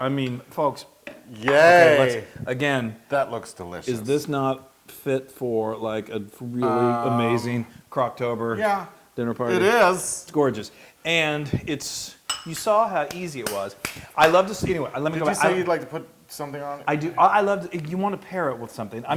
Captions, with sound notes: I mean, folks. >> Yay! >> Again- >> That looks delicious. >> Is this not fit for a really amazing Crocktober dinner party. >> Yeah, it is. >> It's gorgeous. And you saw how easy it was. >> [APPLAUSE] >> I love this, anyway, let me go back- >> Did you say you like to put something on it? >> You want to pair with something.